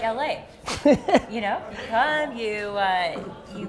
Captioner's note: Gary laughs